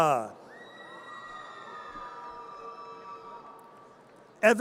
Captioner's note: audience cheers